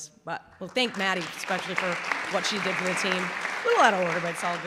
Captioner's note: clapping